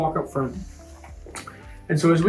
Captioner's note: feet pattering